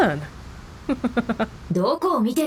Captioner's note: chuckles